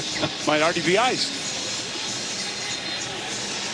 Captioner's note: crowd celebrates